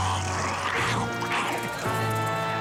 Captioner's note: growling